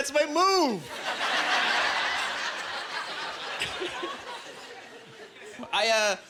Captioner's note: laughing